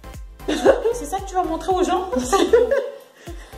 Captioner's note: laugh